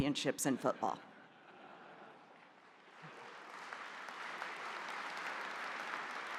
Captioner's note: audience chuckles and applauds